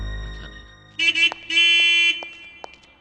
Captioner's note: horn Honking